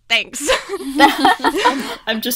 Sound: hosts laugh

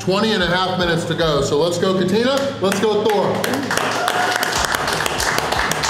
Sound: clapping

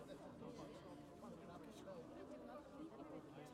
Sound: chatter

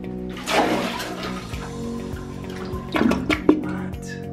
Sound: toilet flushing

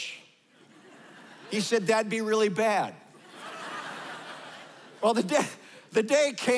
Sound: laughter

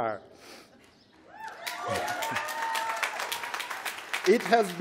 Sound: applause

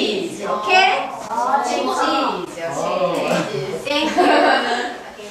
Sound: chattering

